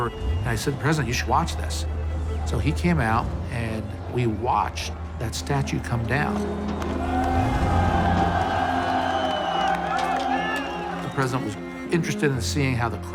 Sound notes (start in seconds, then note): 6.4 crowd cheering and yelling